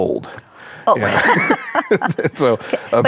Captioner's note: laughs